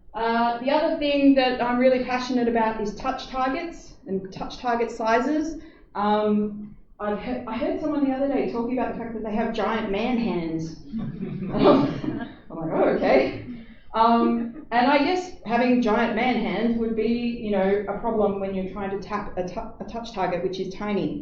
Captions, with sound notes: The other thing that I'm really passionate about is touch targets and touch target sizes. I heard someone the other day talking about the fact that they have giant man hands [laughter] And I went "oh, okay". And I guess having giant man hands would be a problem when you're trying to tap a touch target which is tiny.